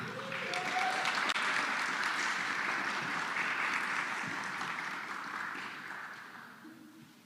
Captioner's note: applause